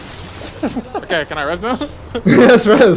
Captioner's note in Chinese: 偷笑